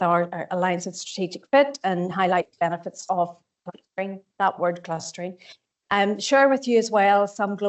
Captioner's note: audio distorts 01.13